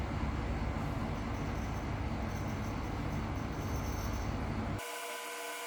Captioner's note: air conditioning sound